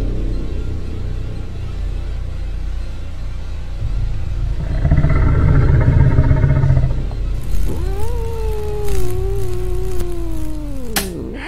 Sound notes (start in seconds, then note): 5.6 growling sounds